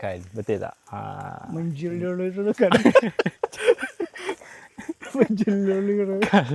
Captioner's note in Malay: ketawa